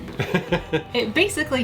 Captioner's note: laughing